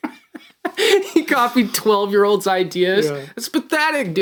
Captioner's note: laughing